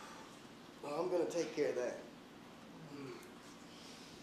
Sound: groaning

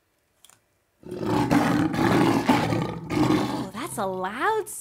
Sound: lion roars

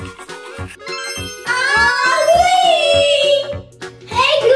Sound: glimmering noise

